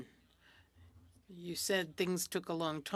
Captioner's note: speaking french